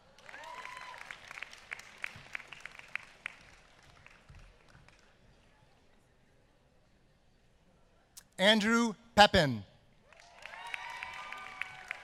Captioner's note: applause